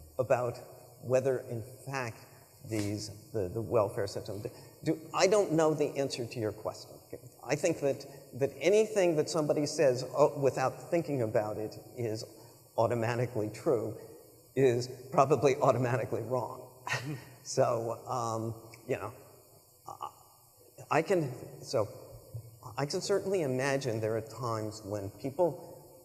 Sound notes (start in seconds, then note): 16.9 chuckles